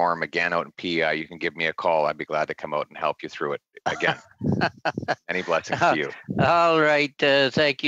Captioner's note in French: voix de l'interprète